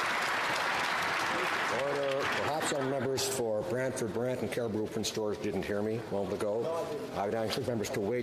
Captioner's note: applause